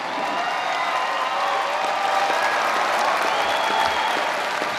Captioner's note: audience applauding